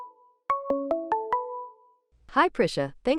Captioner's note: ringtone